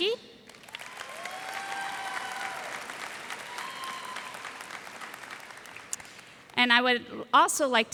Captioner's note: cheers and applause